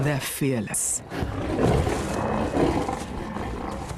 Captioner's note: roars